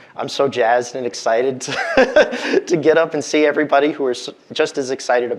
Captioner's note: laughs